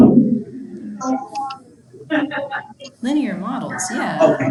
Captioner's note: chuckles